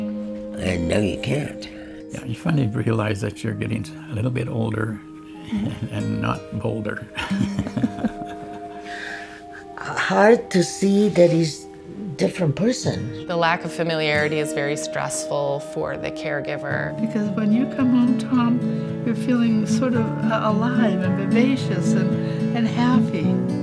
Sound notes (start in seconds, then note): 7.1 chuckles